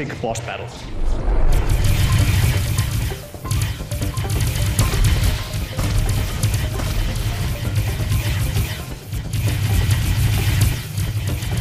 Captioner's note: game sounds